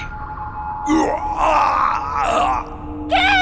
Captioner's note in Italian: gemiti di dolore